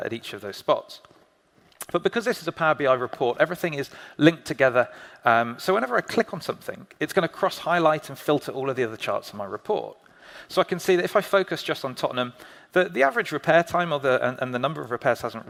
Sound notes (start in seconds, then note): none